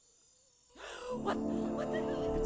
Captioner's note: Marion gasping